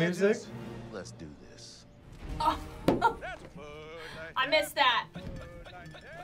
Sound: laughs

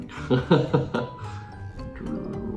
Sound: laughing

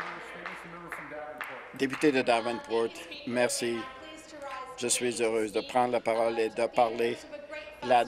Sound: some applause

